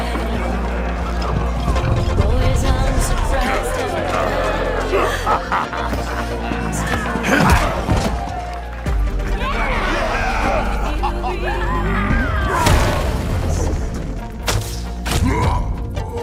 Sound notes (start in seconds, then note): 5.0 laughing; 11.4 grunting